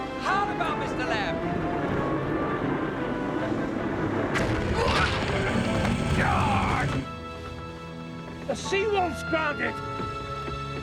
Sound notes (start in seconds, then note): 4.3 crashing